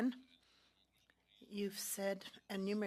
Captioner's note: speaking French